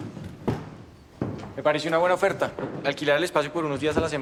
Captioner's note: none